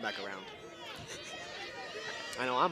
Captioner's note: chuckles